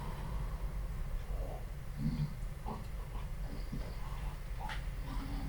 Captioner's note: snoring